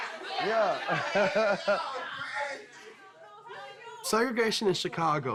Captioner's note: laughing